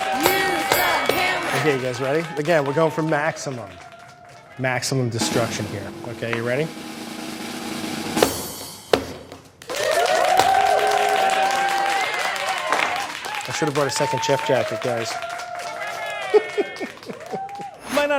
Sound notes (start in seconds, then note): 9.6 audience cheering; 16.2 laughing